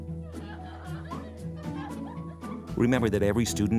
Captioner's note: children laughing